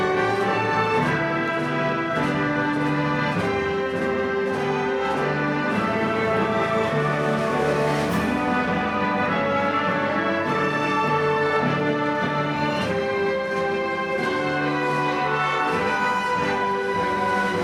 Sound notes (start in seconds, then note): 3.9 orchestral music; 6.9 shouting